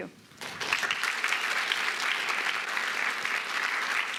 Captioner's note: applause